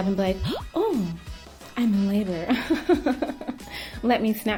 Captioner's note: giggles